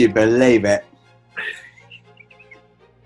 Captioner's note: giggling